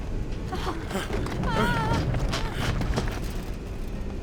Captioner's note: gasping, Screaming; grunts